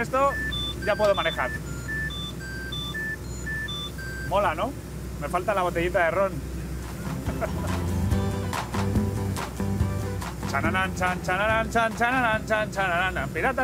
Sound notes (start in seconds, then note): 0.1 electronic beeps; 7.0 laughs